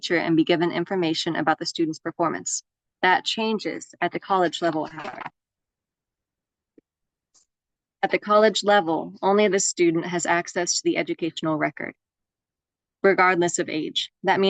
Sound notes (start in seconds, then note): 4.7 audio glitching